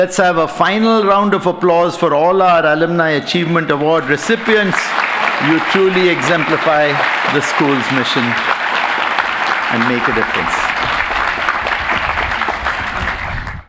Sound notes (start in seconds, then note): 10.8 applause